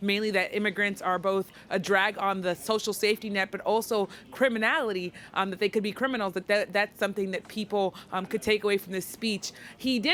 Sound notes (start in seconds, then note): none